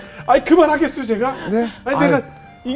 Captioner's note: laughing